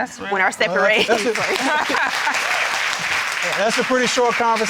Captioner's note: applause